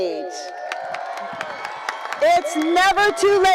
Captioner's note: cheering